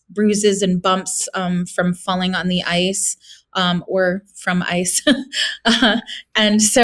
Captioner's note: chuckles